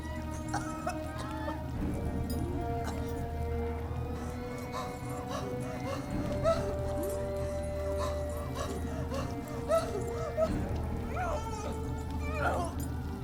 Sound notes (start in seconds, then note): 0.5 Heather coughing; 0.6 Heather yelling; 6.4 Heather panting